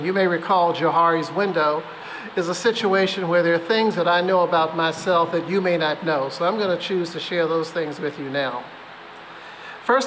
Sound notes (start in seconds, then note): none